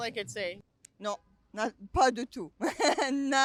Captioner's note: speaking french; laugh